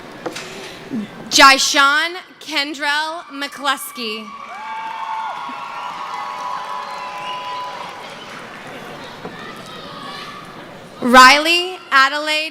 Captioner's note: cheering